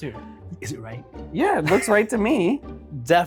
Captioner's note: laughs